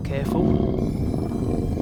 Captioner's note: growling